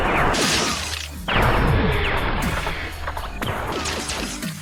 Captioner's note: explosion booms